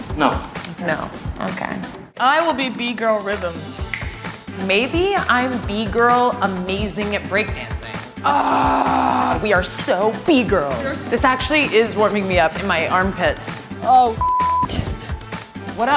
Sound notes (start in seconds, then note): 8.3 growling; 14.2 beep